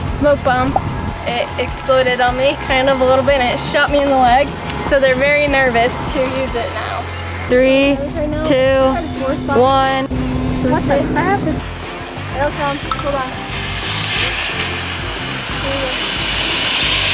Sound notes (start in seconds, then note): 14.2 smoke hissing